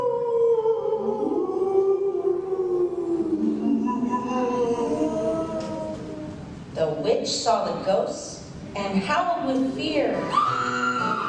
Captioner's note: ghost wails